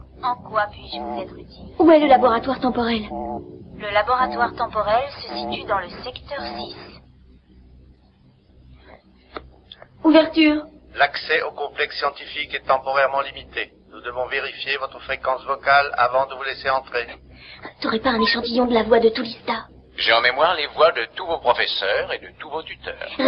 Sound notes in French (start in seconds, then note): 10.9 Voix Robotique Masculine